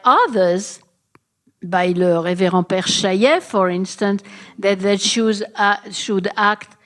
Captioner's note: french